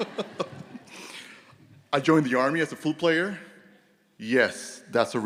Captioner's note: laughter